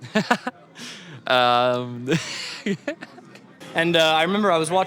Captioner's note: laughs